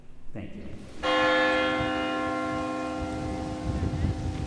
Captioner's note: bell dings